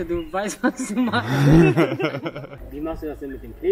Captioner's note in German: gelächter